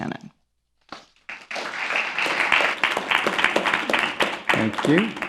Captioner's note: applause